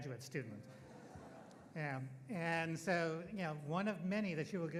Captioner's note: audience laughing